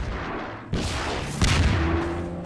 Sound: explosion; APC Fires Missile

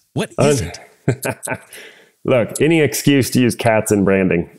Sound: laugh

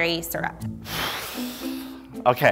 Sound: exhales

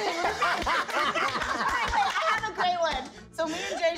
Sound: cast members laugh

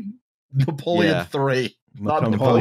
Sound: laughs

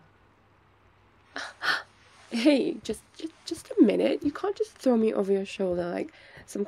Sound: footsteps

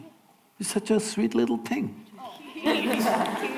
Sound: few laugh

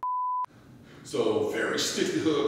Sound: beep

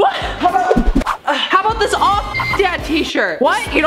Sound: beep

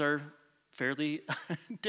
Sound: chuckles

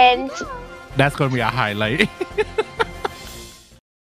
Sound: laughing

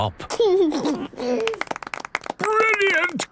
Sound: George giggles; clapping

